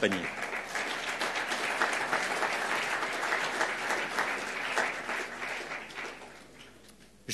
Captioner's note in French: Applaudissements